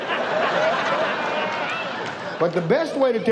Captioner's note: audience laughs